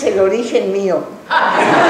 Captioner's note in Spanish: laughing